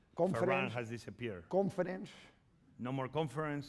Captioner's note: speaking spanish